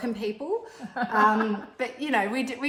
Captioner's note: laughs